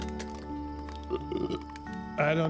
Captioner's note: Sam belches